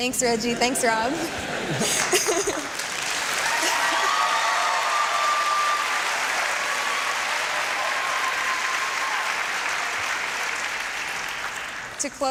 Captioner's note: applause and cheering